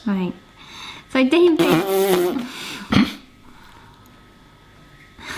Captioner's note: blows raspberry